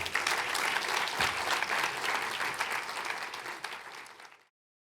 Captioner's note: audience applauds